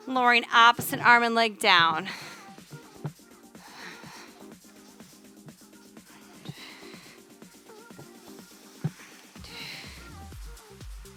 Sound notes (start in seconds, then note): 3.2 upbeat music; 3.7 panting